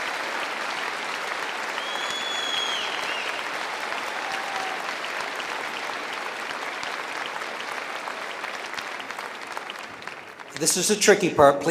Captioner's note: cheering and applause